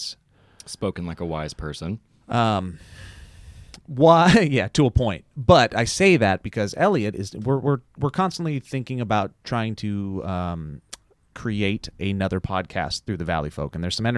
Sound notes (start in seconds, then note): 4.4 laughs